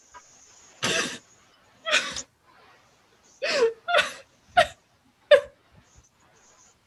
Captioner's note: loud sobbing